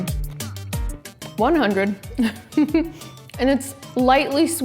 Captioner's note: laughs